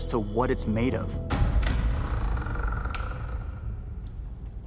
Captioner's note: door creaks open